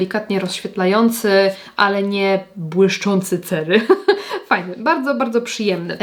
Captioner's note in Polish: śmiech